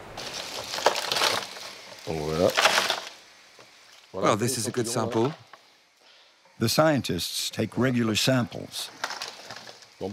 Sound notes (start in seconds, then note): 0.0 sample crunching; 3.1 speaking in foreign language; 9.8 speaking in foreign language